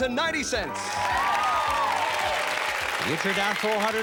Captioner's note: cheers and applause